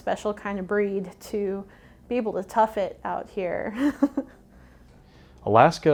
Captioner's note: laughs